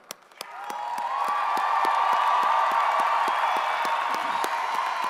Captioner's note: audience cheers and applauds